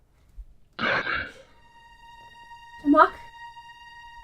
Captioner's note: Cami gasps; suspenseful music